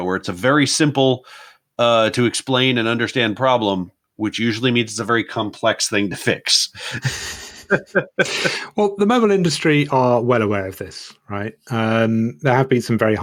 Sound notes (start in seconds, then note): 6.7 both laugh